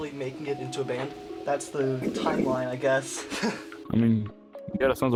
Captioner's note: laughs